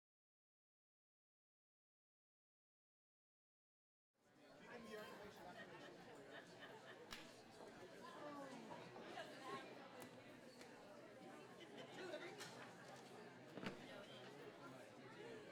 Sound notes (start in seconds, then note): 5.2 audience chattering